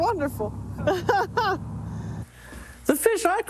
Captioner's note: laughs